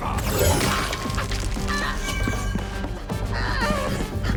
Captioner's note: magical zap; groans